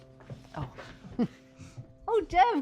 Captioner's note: Charlotte chuckles